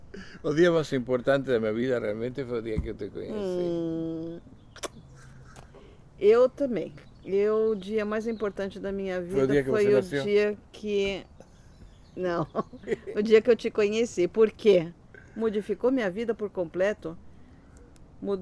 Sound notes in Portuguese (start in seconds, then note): 12.3 risos